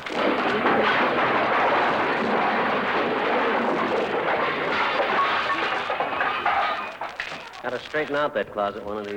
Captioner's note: crashing sound